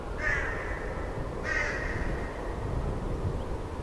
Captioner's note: crow squawking